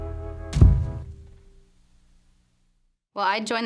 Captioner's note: door shuts